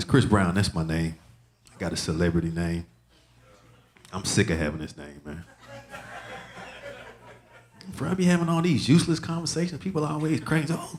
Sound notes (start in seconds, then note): 5.4 audience laughing